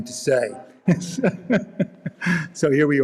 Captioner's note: laughing